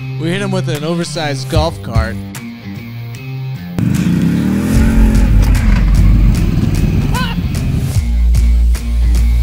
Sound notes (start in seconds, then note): 3.8 engine roaring